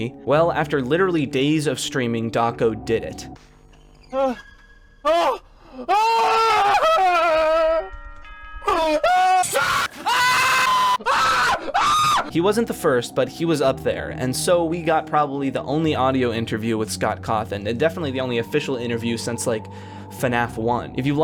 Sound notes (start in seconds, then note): 8.7 assorted yells